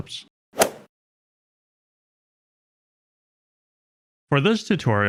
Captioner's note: golf ball hit sound effect